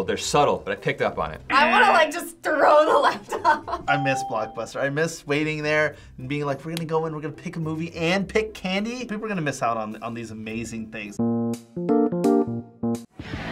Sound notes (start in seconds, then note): 3.0 laughs; 11.2 quirky interlude; 13.3 rock music